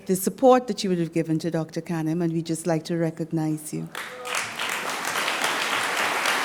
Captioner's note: applause